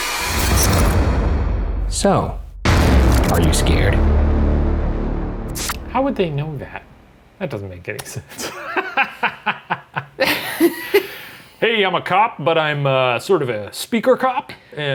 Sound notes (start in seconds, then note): 0.0 dramatic music; 8.4 laughs